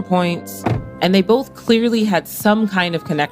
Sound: car door slams

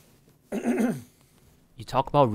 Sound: coughs

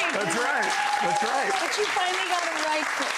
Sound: audience cheers

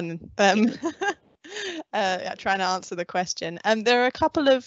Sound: laughs

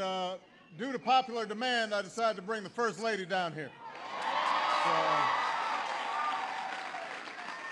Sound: applause

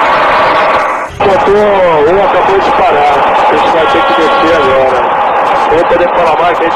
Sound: sound of engine no.1 flaming out; altitude alert

